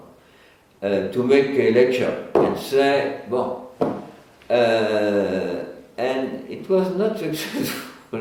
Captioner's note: laughs